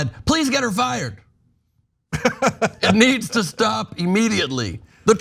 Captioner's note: laugh